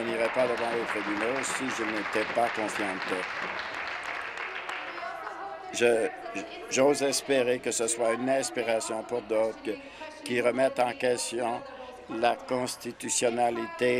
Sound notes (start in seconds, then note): 5.1 applause